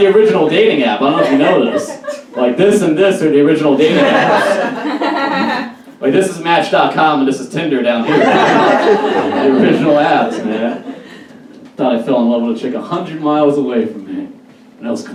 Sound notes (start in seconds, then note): 0.0 audience Laughs; 5.1 audience kind of laughs; 9.3 audience Laughs